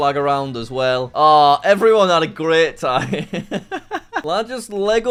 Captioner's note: laughs